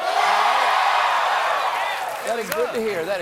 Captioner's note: cheers and applause